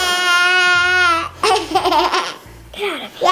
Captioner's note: giggling